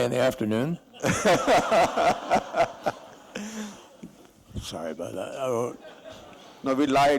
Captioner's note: laughter